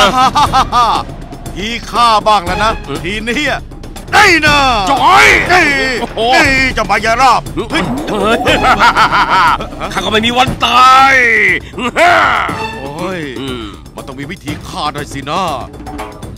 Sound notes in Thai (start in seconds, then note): 0.0 หัวเราะ; 5.7 ร้อง; 7.6 หัวเราะ